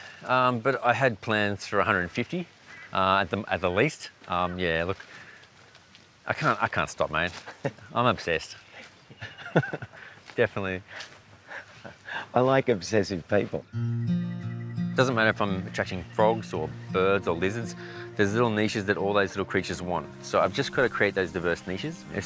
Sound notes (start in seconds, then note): 9.1 chuckles; 9.2 laughs